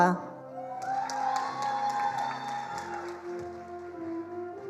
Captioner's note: attendees applauding